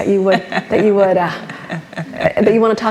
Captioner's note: laughs